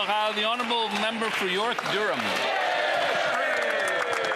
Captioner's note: applause